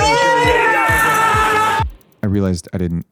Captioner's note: people cheering